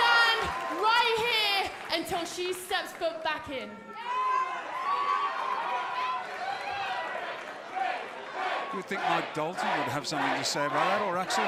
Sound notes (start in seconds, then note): 4.3 crowd cheering